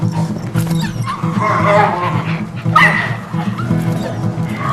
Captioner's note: dogs barking and whimpering